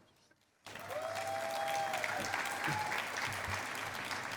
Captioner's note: cheering and applause